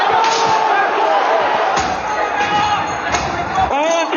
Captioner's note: chaotic riot Sounds